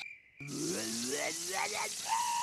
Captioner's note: snarling